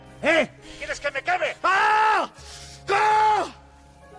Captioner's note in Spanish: Gritos